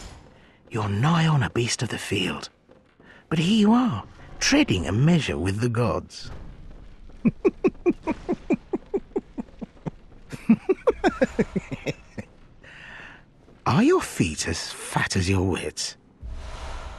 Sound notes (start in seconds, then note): 7.2 laughs